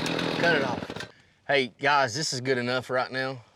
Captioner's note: chainsaw stops